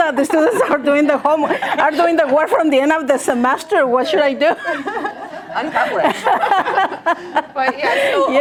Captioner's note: laughter